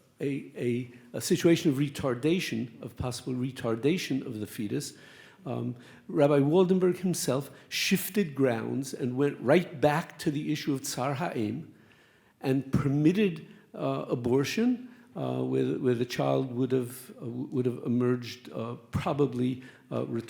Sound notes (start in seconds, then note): 11.2 speaks Hebrew